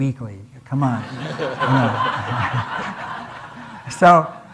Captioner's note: audience laughing